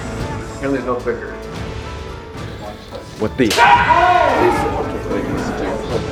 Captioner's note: shouting